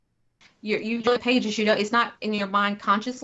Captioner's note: technical interference